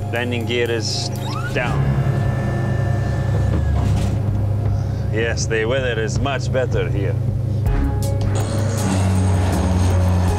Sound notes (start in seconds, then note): 0.9 gear whirring